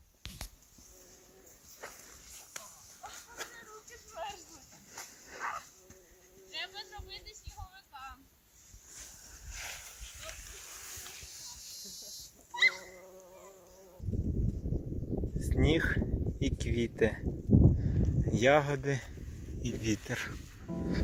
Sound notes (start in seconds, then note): 8.4 buzzing bumblebee, sounds of kids